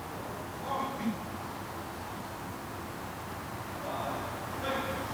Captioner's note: honor Guard captain calling